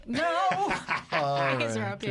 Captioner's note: laughter